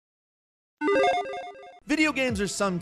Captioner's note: electronic chiming